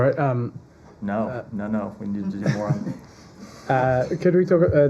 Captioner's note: laughter